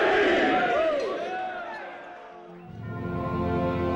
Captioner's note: cheering